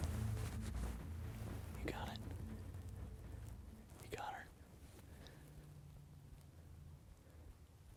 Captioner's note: whispering